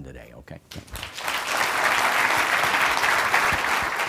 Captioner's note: applause